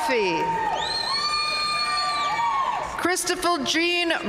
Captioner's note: audience cheering and applauding